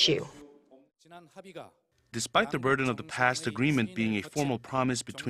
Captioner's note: Korean